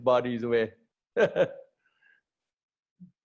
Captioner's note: laughter